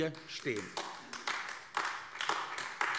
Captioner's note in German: Beifall AfD